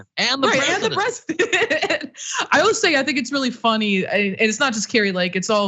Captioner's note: laugh